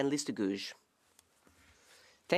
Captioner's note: speaking French